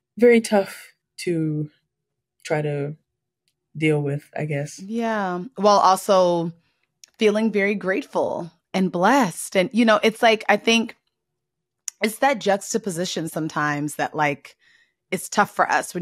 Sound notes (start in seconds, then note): none